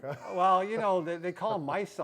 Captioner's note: laughs